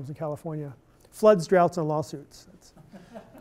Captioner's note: laughter